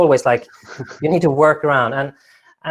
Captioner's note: laughing